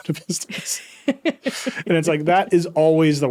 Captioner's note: laughing